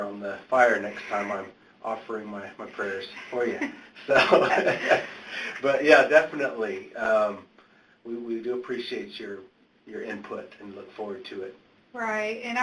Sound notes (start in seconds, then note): 4.9 laughs